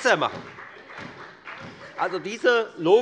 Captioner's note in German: Beifall bei der FDP